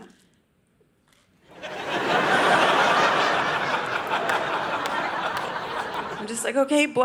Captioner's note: audience laughing